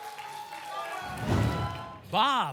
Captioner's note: applause and cheering; whoosh